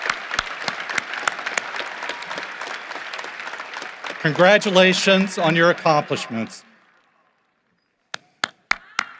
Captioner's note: cheering and applause